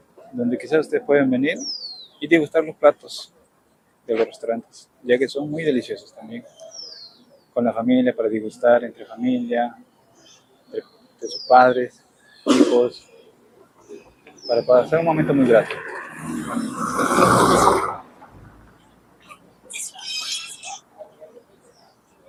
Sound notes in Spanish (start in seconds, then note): 18.1 gemido; 19.3 carraspeo